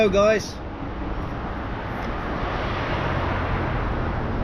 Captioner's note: traffic whooshing